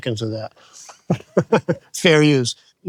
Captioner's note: laughs